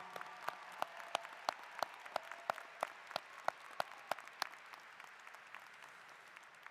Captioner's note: applause